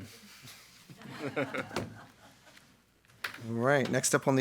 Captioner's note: attendees laughing